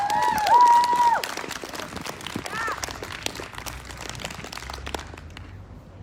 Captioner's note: whooping; applause